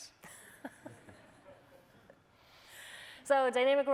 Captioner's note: laughter